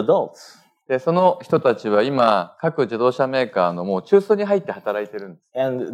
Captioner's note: speaking japanese